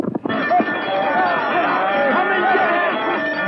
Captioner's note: shouting